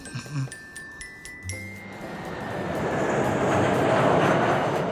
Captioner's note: jet engine roaring